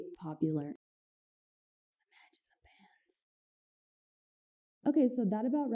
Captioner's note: soft whispering